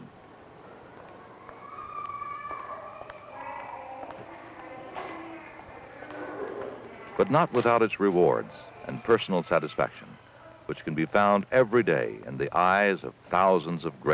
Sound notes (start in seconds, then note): 2.0 distant crying and chatter